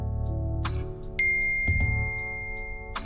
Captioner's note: message pings